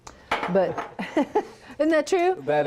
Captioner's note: laughs